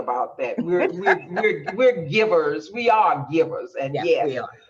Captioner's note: laughing loudly